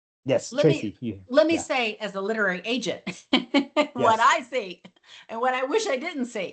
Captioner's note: laughs